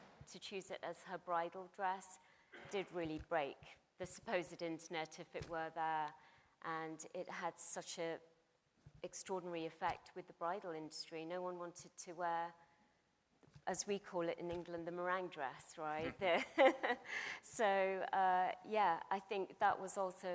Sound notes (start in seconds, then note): 16.0 laughs